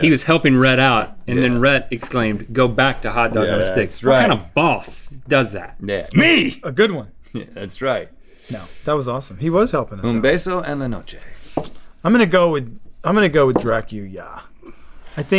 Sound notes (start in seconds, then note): 10.3 foreign language